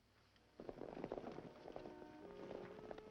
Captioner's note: horses galloping; gentle music